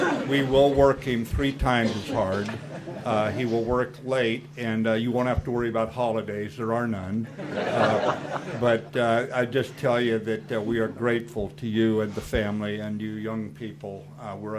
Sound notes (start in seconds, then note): 0.0 audience laughs; 7.2 audience laughs